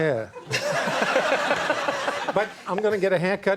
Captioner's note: laughing